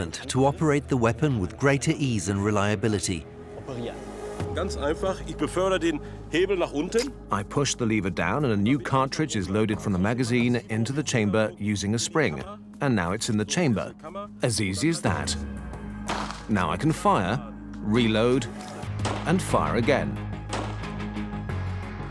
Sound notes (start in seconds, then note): 6.4 in German; 8.7 dubbed in English